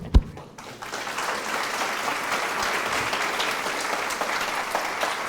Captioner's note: audience applause